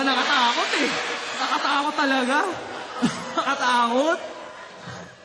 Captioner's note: laughter